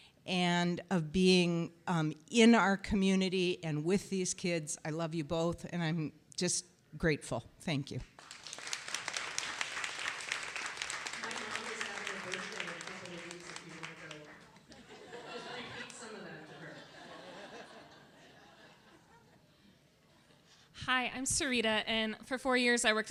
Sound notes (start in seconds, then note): 8.1 applause